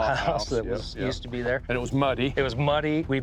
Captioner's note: laughs